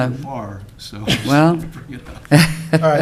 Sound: laughs

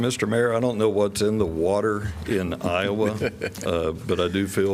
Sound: laughter

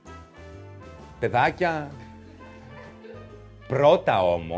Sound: laughs

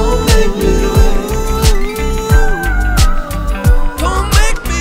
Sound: vocalizing

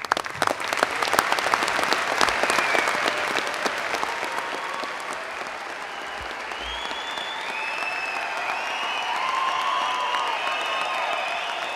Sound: applause

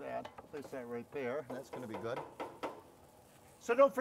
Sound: spatula thudding

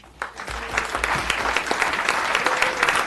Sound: applause

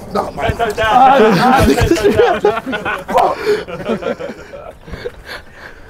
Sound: men chatting; men laughing

